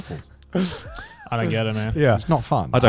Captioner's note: laughs